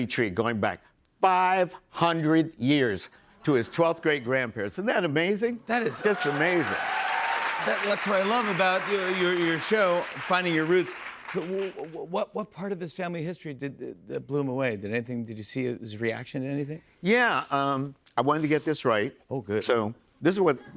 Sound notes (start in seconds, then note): 5.8 cheers and applause